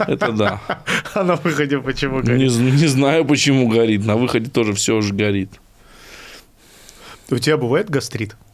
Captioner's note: laughs